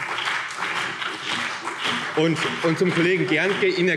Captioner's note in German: Beifall CDU und BÜNDNIS 90/DIE GRÜNEN